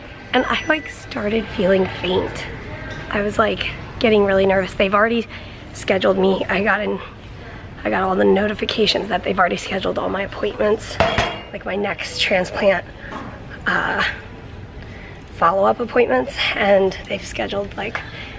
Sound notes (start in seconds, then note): none